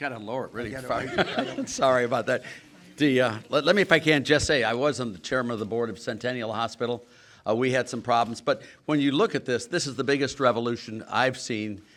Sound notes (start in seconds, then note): 0.8 laughter